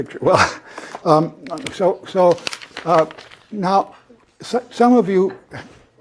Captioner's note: laugh